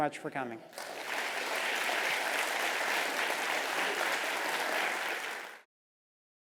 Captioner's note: applause